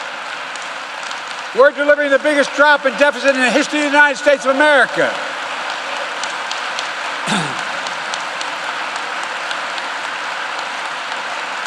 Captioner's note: applause